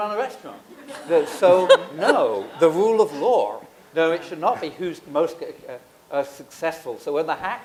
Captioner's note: laughter